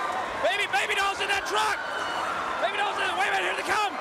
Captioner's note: crowd cheering